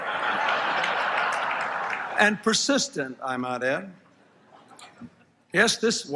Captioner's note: laughter